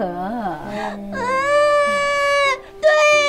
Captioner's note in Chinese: 哭声